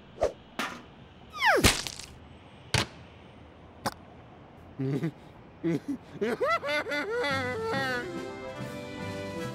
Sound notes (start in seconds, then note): 5.6 sobbing